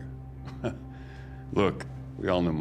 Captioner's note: chuckles